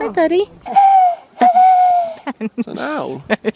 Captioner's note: imitates bird